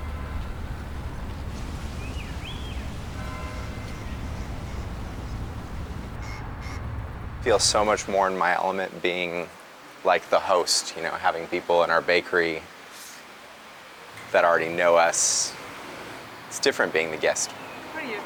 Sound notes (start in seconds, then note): 0.2 church bells ringing; 2.3 birds chirping; 6.4 horns beeping